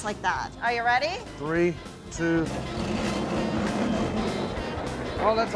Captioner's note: machine grinding sound